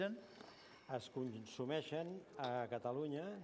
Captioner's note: non-english speech